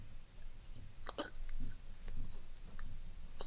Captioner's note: sound of choking